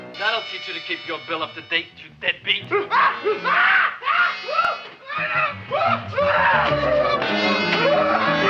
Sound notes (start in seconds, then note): 2.8 patient screaming